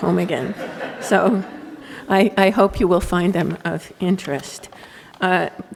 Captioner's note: laughter